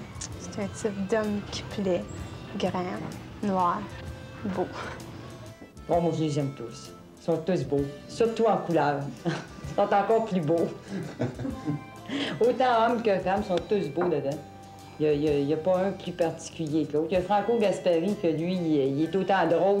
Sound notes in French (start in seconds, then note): 10.8 rires